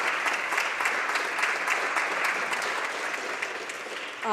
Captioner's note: applause